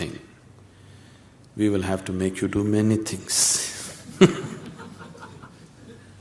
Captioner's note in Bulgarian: смее се